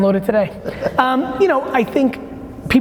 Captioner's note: laughing